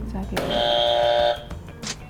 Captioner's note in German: Buzzer richtig